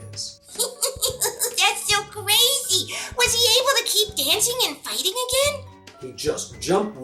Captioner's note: laughing